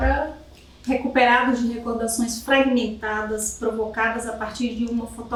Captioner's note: speaking portuguese